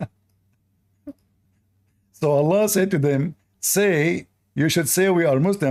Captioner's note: Ketawa